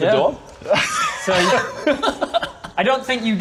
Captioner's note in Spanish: Risas